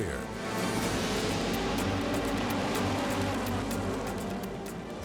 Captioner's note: engines roar